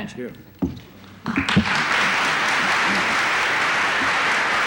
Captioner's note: applause